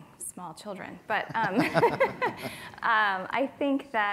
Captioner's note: laughing